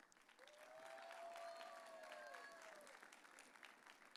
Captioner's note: audience cheering